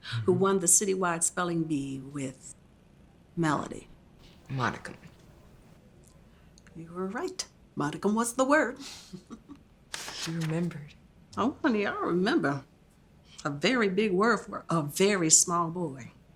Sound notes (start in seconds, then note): 8.9 Miss Dottin chuckles